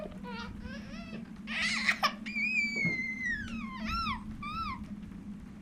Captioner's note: baby crying